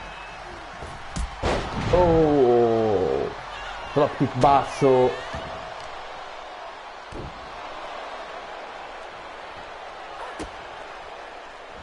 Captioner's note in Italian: Applauso